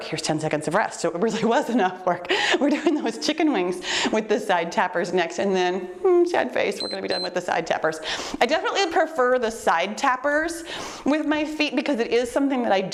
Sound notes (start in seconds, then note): 6.7 timer beeps